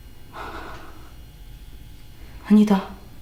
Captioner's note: sigh